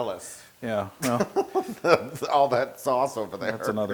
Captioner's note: laugh